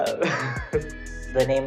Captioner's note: laughing